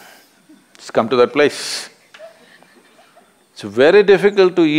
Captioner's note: A participant laughs